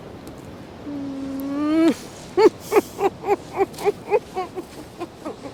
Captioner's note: laughing